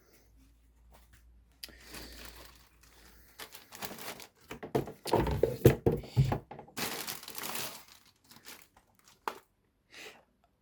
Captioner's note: bag rustling